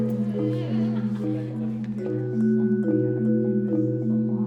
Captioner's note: students chattering